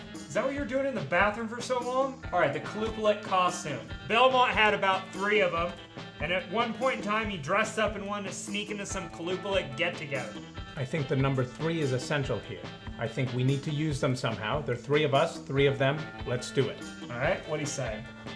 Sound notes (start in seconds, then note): none